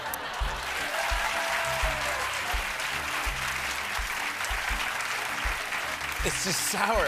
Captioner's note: laughter; cheers and applause